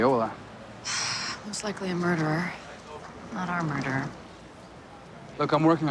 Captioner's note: sighs